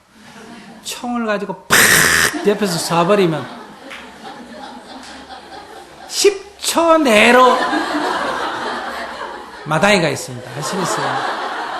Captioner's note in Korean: 청중 웃음